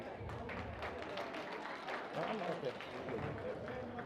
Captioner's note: audience applauds